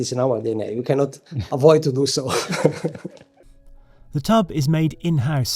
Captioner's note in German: lacht